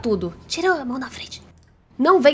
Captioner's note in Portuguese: sussurro